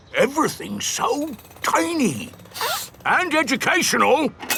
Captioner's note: sniffs